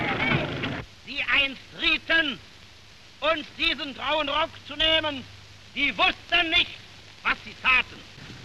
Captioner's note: German speech